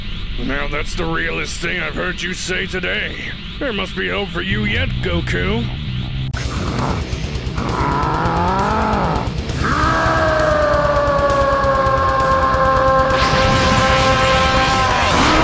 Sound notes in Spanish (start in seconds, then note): 6.4 Gruñidos; 9.4 Gritos